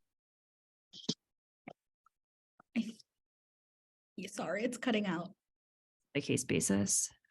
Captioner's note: no audio